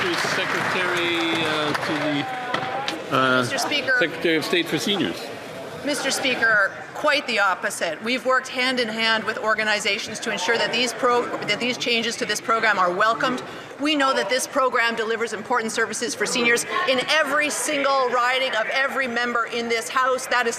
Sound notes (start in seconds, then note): 2.5 some Applause